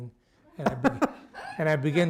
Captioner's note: laughter